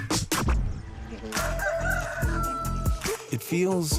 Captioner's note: rooster crows